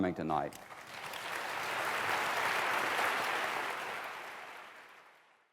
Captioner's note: applause